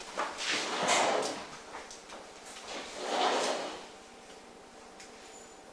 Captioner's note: door